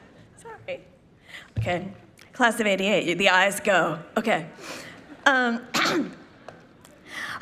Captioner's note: laughter